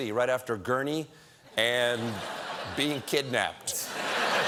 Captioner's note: laughter